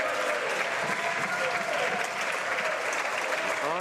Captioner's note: some Applause